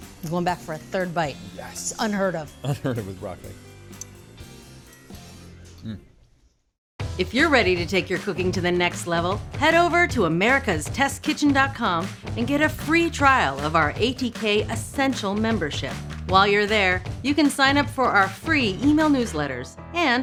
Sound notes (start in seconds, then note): 2.6 chuckles